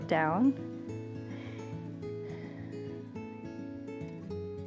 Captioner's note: inhales and exhales